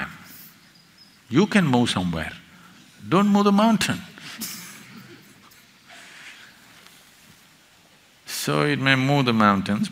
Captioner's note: laughs